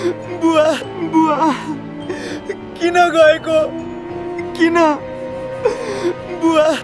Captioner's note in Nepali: रोएको आवाज; हास्य